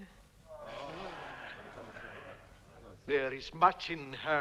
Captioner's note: chieftains moaning